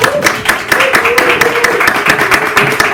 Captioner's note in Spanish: aplauso